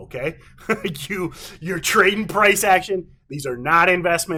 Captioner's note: chuckles